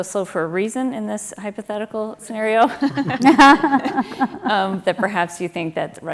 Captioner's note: laugh